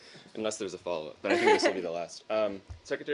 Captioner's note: laughter